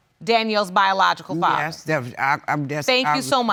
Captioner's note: stuttering